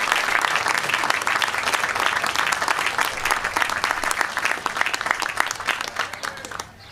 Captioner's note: applause